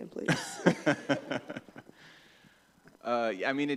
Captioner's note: laughter